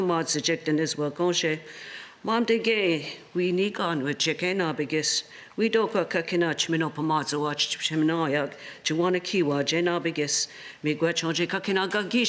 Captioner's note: speaking Alternate Language